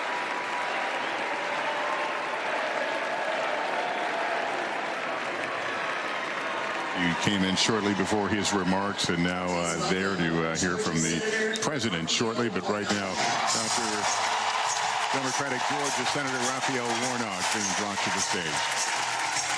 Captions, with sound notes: UNITED STATES, KAMALA HARRIS. THANK YOU. THANK YOU. [ APPLAUSE ] >> WE CAME IN SHORTLY BEFORE